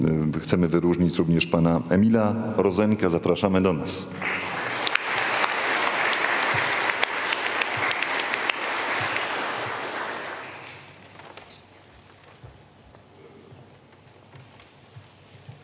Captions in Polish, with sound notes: okazji chcemy wyróżnić również pana Emila Rozenka, zapraszamy do nas. [oklaski]